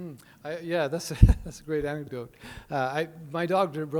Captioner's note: laughing